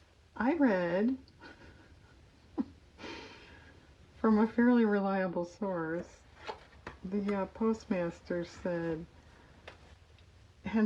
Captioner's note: laughs